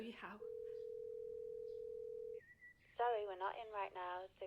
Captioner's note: phone ringing